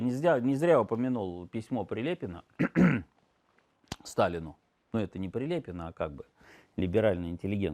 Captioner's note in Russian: кашель; откашливается